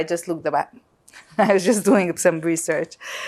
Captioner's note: laughing